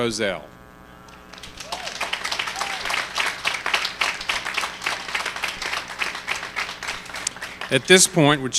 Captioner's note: applause